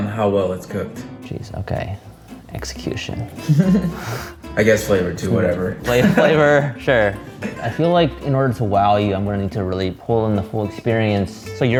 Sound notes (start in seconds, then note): 3.4 laughing